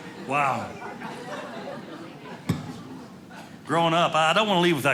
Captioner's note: audience laughing